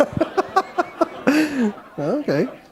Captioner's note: laughter